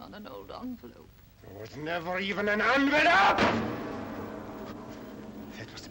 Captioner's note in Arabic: يصرخ